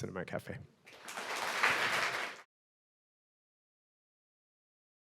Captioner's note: audience clapping